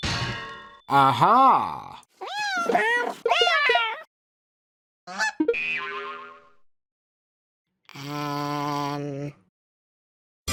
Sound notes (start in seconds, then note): 2.2 various cat noises; 5.1 goose noise